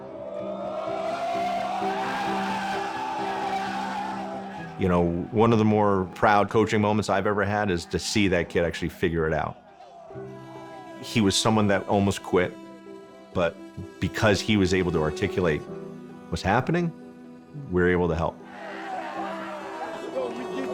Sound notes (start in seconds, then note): 2.2 players cheering; 2.2 soft dramatic music; 18.4 players cheering; 19.3 soft string music